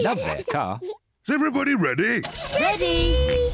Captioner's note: engine starts